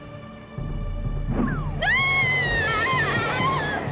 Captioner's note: screaming